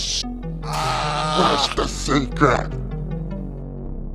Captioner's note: tortured screams